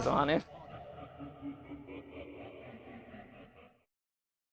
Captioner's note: echo sound